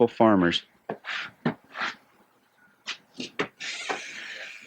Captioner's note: birds chirping